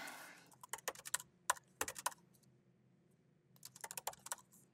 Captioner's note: keyboard clacking